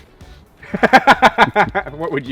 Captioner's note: laughs